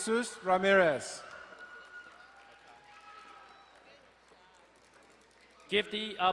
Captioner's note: crowd cheering and applauding